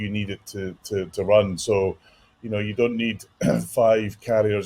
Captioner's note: cough